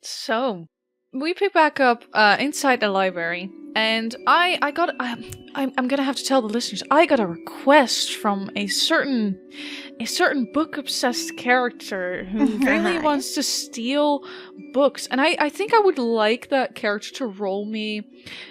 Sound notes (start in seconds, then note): 12.4 laughs